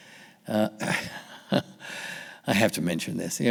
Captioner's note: laughing